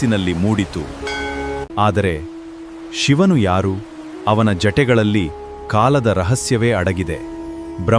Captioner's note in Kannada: ಗಂಟೆ